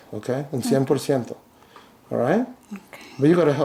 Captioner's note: speaks in a foreign language